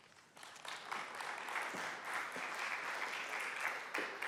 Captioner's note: audience applause